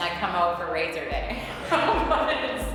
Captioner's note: laughs